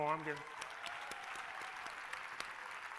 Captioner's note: applause